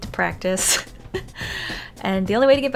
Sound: cute giggle then sharp breath intake

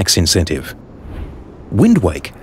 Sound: wind sounds

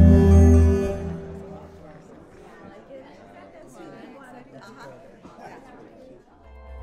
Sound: ambient party noises

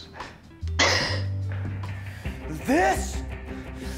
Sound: Allison laughs

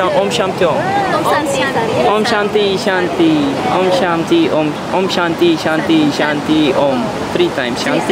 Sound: speaking some unknown cult language; speaking Balinese

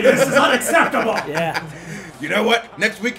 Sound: laugh

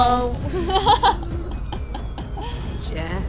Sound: laughs

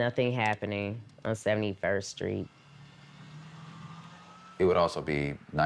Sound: car engine revving

